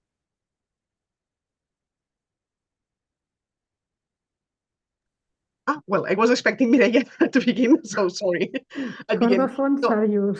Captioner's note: laughing